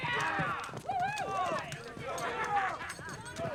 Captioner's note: fans shouting